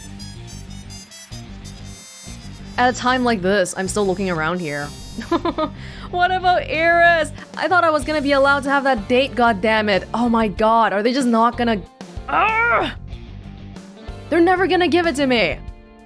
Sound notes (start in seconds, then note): 5.2 chuckles; 12.2 groans frustratedly